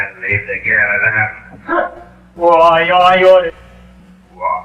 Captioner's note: with drunken anger